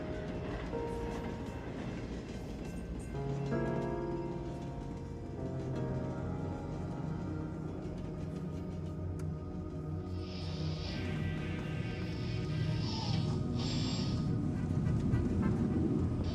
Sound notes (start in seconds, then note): 10.9 garbled radio frequencies